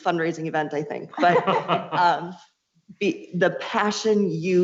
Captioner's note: laughs